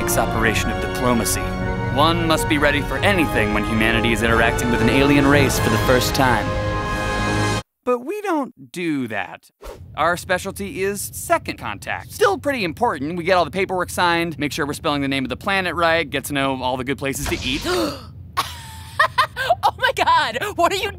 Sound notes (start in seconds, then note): 17.2 door hissing; 17.6 gasps; 18.9 laughs